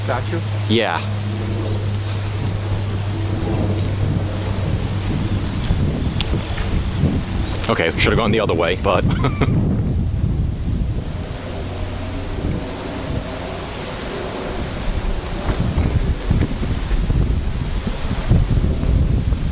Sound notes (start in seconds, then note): 2.6 airplane Overhead; 12.2 airplane Overhead, Wind Blowing